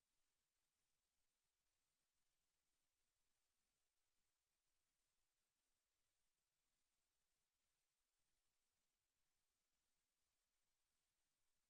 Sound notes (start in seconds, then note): none